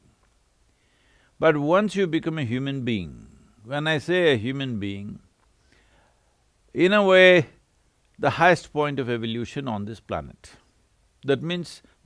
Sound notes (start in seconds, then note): none